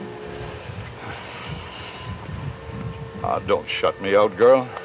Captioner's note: Anton sighs